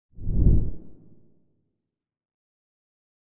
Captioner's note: logo whooshes